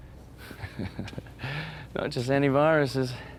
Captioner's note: laughs